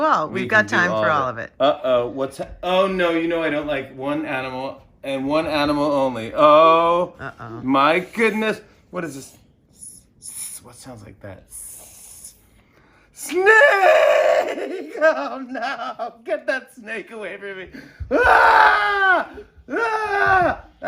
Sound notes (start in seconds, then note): 11.5 hisses; 11.5 hissing; 13.4 laughing